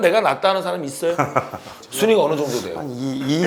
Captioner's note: hahaha